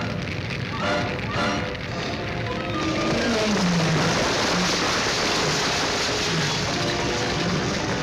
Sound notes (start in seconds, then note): 4.3 beast roars